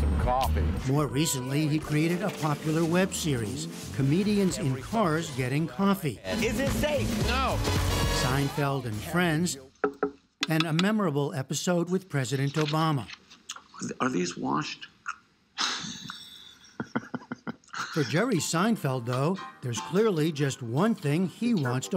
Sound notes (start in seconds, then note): 15.6 laughter